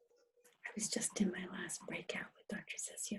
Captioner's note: whispering